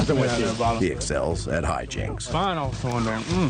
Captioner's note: cadets chattering